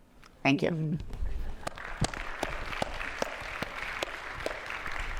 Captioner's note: attendees applauding